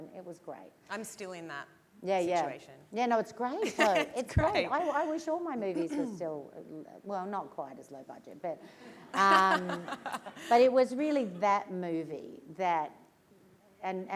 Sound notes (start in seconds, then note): 3.6 laughs; 8.7 laughter